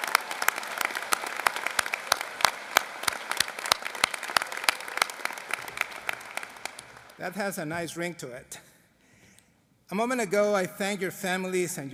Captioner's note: applause